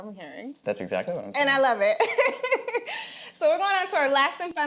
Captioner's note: laughs